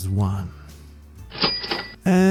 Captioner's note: money soud